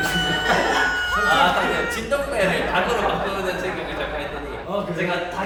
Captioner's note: laughter